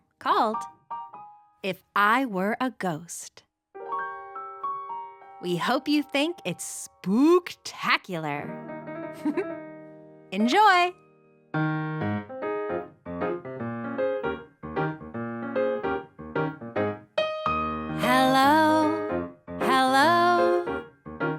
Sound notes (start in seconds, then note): 6.2 giggles; 6.2 mysterious piano music; 11.4 charming piano music